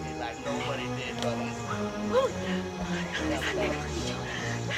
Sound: whispering

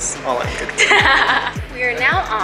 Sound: laughs

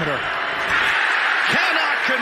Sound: cheering and applause

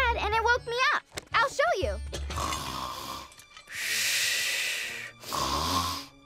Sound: snoring

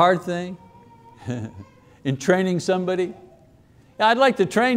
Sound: chuckles

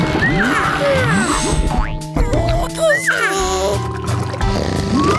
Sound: squeaking; snoring

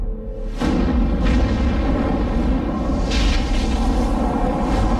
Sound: lightning striking

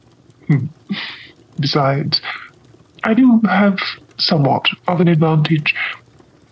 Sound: chuckles

